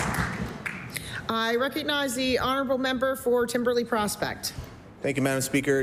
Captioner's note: applause